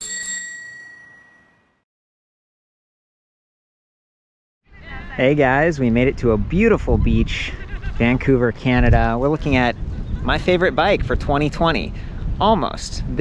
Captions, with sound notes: (bell tinkles) - Hey guys. We made it to a beautiful beach, Vancouver, Canada. We're looking at my favorite bike for 2020, almost.